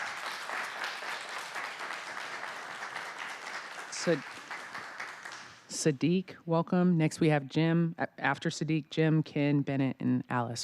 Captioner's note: applause